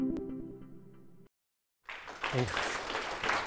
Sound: applause

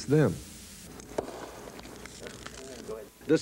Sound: sound of champagne cork popping

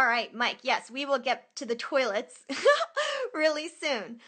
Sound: laughter

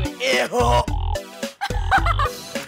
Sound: laughing

